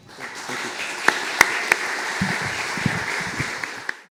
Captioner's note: audience clapping